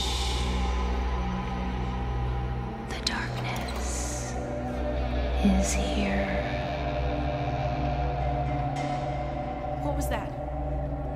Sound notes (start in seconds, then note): 6.8 door creaking